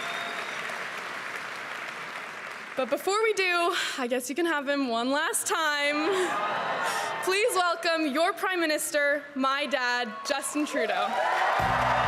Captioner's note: cheering and applause